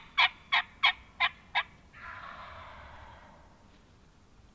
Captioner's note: turkey gobbling